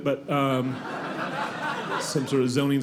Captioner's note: audience laughing